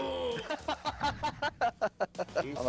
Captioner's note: laughter